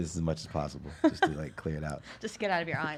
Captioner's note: laughs